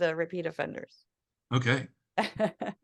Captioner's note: laugh